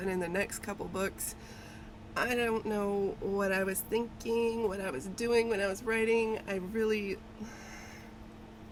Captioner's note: sighs